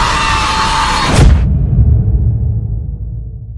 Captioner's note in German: schreit